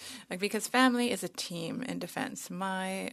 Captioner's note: speaking French